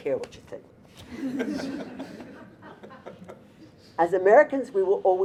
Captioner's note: audience laughter